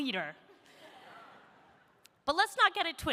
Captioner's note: audience laughs